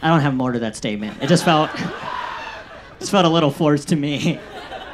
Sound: audience laughs

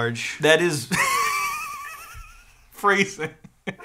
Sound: laughing

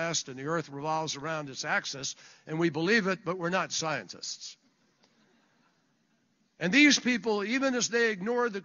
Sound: laughter

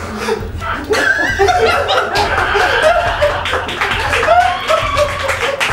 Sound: laughs; applause

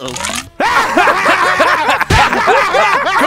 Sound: laughter

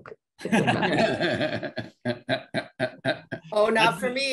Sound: panelists laugh

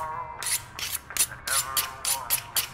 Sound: knives clicking

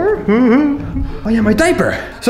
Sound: laughs

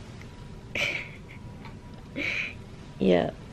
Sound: chuckles

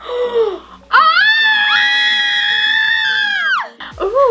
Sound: screaming

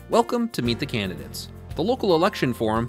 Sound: voiceover

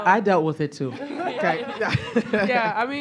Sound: laughter

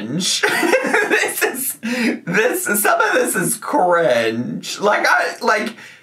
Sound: laughs

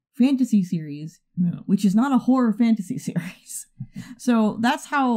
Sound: chuckles

